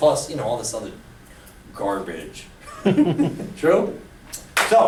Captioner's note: chuckles